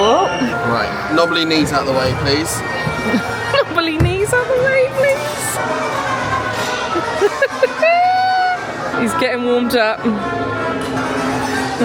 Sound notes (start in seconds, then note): 3.3 laughing; 9.6 upbeat music